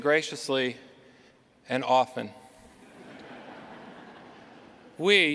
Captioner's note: laughter